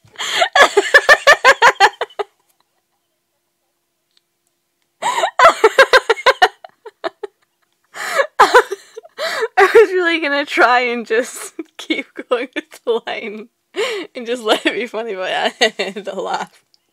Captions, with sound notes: (laughing) (laughing) I was really gonna try and just keep going with the line and just let it be funny but I had to laugh